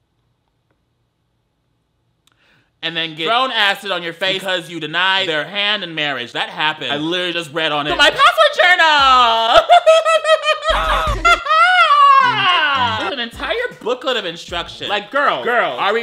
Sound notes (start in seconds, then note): 9.2 laughing; 10.6 boy grunts